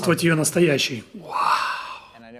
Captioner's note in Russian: Вздыхает